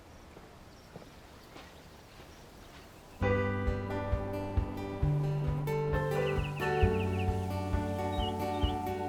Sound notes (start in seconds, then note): 3.2 soft music; 5.4 birds chirping